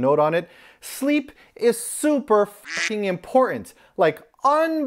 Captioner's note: 𝘘𝘶𝘢𝘤𝘬𝘪𝘯𝘨!